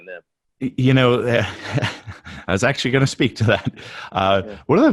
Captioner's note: laughs